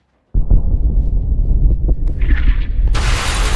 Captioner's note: deep thunder rumbles; gunshots whizzing; thunder claps